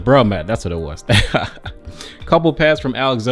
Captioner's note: laughs